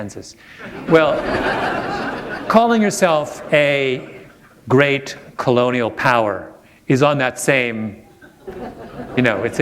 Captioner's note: laughter; chuckle